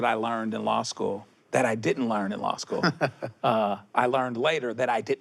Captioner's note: chuckles